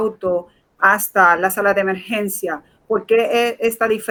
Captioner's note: speaking in Foreign Language